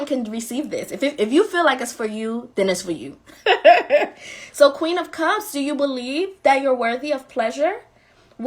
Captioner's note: laughing